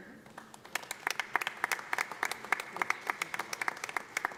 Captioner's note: audience applauding